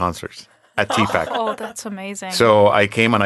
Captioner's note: laughing